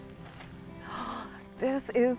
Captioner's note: gasps